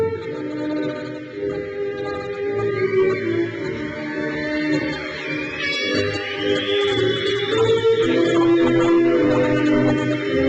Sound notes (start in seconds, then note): 3.9 crowd cheers